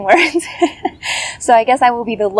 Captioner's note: laugh